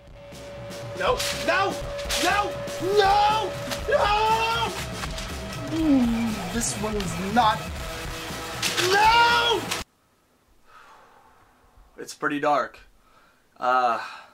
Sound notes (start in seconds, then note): 8.3 paper wrinkling